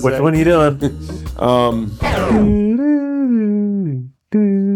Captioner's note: hums